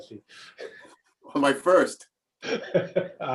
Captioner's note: laugh